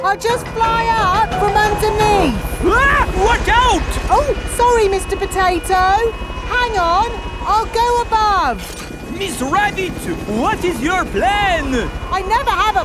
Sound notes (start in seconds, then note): 3.0 screams